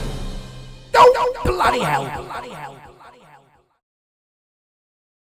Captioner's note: echoing down